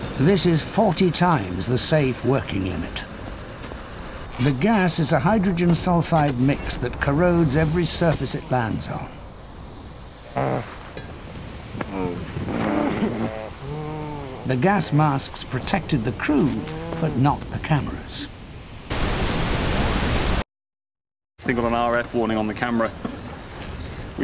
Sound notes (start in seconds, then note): 14.4 gasping and muffled speech